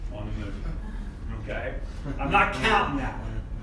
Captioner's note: audience laughing